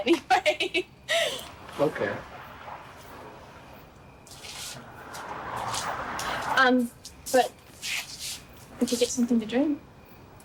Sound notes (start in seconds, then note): 0.0 Margaret laughing; 4.5 vehicle engines revving